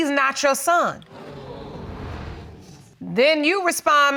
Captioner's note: audience gasps